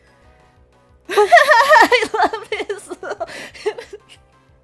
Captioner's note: laughing